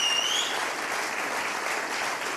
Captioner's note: applause